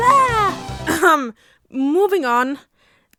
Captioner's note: cough